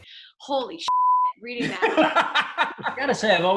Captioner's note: laughing